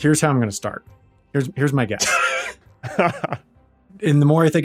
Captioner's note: laugh